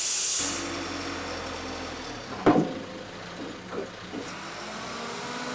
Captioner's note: engine idling